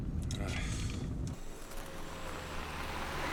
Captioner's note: groans